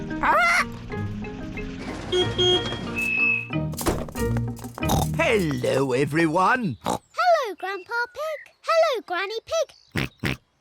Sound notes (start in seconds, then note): 2.0 beeps horn; 4.8 oinks; 9.9 oinks